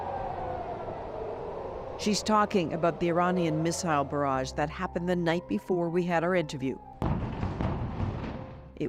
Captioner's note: sirens